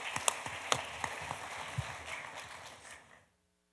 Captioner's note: applause